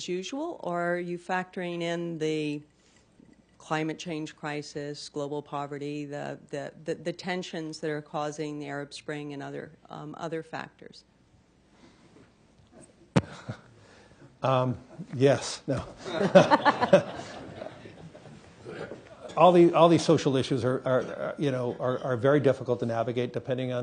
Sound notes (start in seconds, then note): 13.1 chuckles; 16.0 laughter